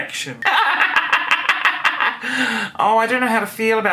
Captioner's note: laughing